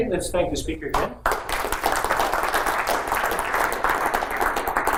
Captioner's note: applause